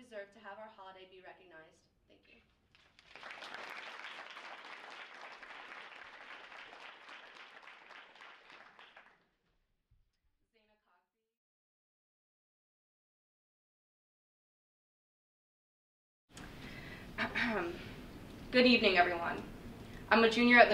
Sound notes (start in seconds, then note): 2.7 audience applauds